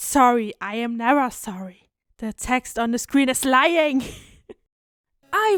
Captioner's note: chuckle